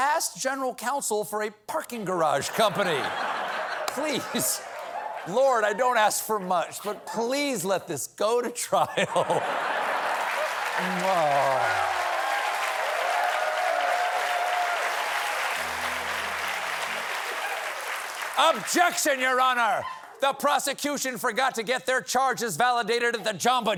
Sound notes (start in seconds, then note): 2.4 laughter; 9.6 applause